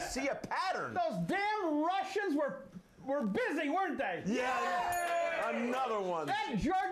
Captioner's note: bell rings